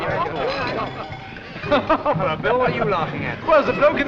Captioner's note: laughs